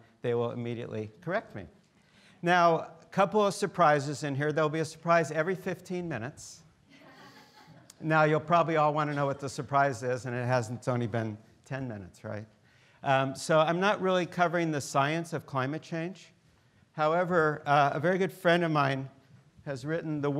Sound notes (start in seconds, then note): 6.9 students laughing